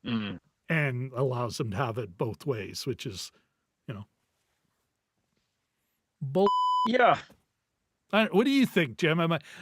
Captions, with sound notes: and allows them to have it both ways, which is, you know. You know, bull(beep) Yeah. What do you think, Jim?